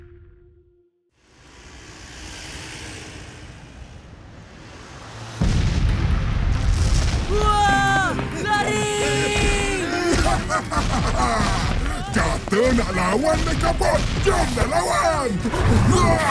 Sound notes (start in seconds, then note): 10.6 RocketFish laughing; 16.1 evil laughter